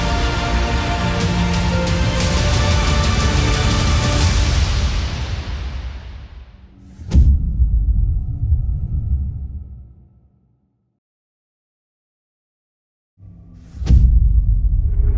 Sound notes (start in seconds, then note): 0.0 triumphant music plays; 6.9 dramatic sound